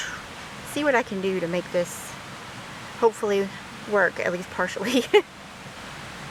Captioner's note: chuckle